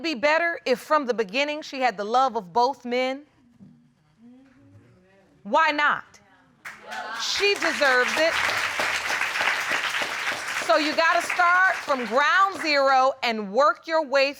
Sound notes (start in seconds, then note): 9.7 applause